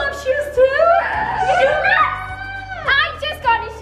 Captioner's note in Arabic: هتاف